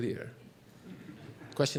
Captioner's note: laughter